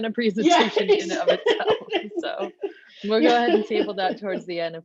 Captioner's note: laughs